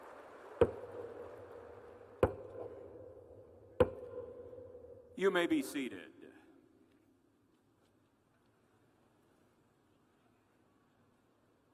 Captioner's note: cheers and applause